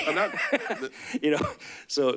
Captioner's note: laughs